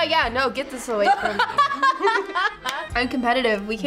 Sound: both laugh

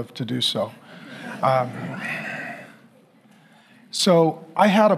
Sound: congregation laughing

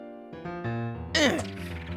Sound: grunt of effort

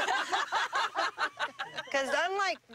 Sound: laughter

